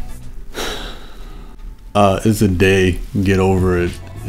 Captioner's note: sighs